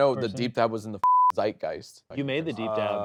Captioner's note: beep